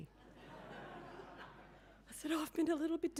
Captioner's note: audience laughing